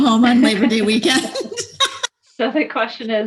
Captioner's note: laughs